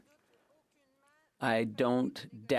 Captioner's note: speaking French